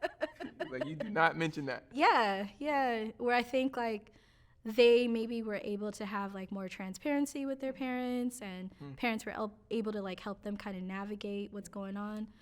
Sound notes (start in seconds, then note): 1.7 both laughing